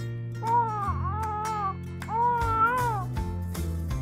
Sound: crying

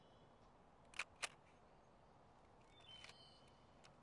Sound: shutter clicks

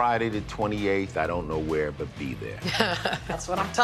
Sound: laughs

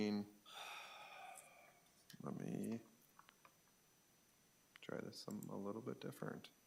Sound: sighs

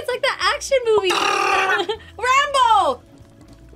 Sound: imitates machine gun

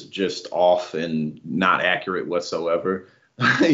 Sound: laugh

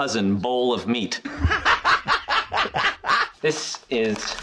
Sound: uproarious laugh track

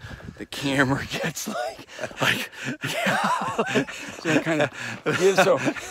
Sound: laughing

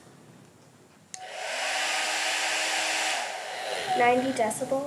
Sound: sound of a blow dryer

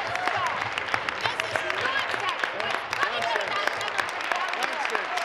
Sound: applause

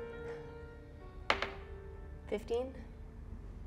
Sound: cold piano music continues; die taps table

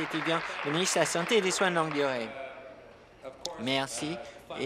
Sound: applause

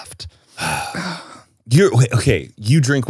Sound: both sighing

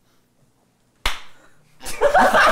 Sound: clap

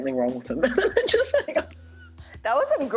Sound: laughs

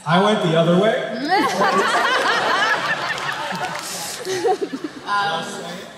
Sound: laughter

